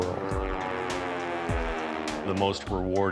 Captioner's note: plane engines roaring